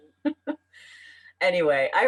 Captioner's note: laughs